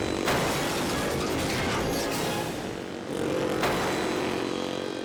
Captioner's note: motorcycles crash